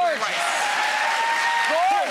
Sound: applauding

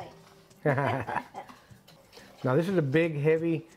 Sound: both laugh

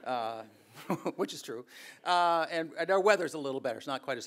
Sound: audience laughing; chuckles

